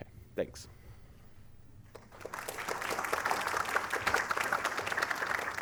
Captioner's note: applause